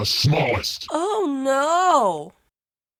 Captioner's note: insincerely